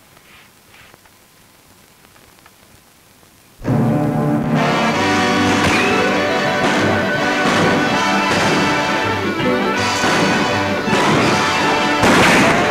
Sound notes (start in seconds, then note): 3.6 dramatic music; 4.9 guns bang